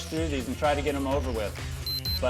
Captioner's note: beep sound